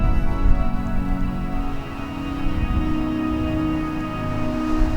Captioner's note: sound of wind